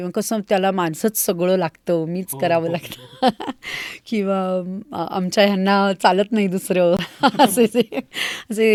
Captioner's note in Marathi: हास्य